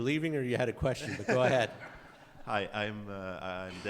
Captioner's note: laughs